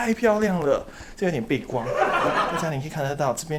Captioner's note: haha